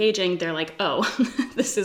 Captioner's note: laughs